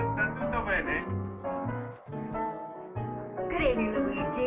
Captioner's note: Italian